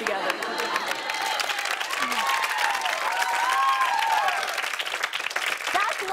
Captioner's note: cheers and applause